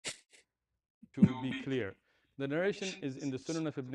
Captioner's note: berdehem